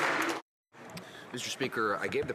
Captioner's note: some Applause